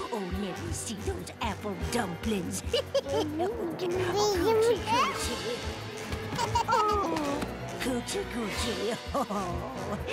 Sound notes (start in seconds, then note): 2.5 laughs; 4.0 babbling